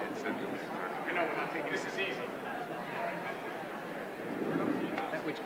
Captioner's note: indistinguishable chatter